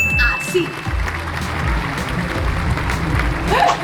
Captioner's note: applause